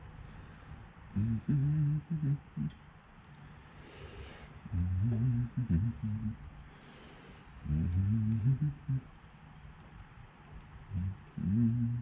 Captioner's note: humming